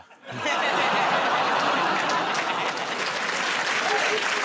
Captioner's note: laughter; applause